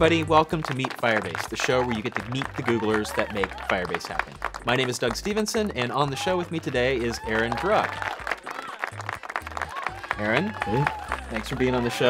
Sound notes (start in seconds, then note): 8.0 applause